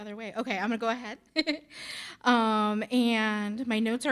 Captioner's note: chucking